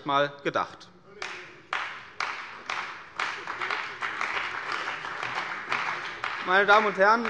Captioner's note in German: Beifall bei der CDU und dem BÜNDNIS 90/DIE GRÜNEN